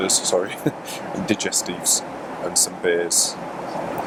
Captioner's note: laughs